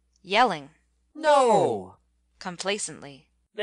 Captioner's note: _yelling_